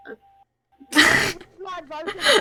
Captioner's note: loud Laugh